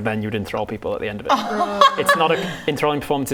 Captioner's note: laughing